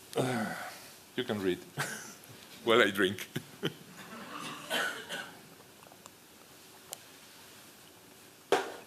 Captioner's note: laughter